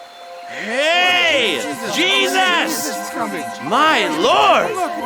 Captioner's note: crowd murmuring